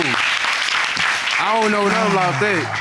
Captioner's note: audience applauding